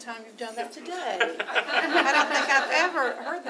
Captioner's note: laughter